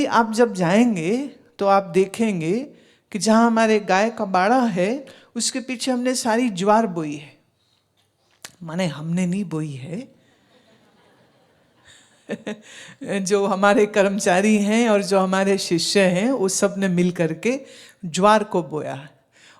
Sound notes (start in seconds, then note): 11.8 laughs